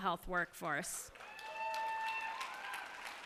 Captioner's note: cheers and applause